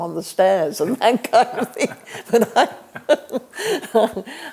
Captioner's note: laughs